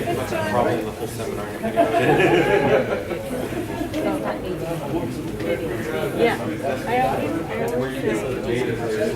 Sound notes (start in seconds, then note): 1.8 laughing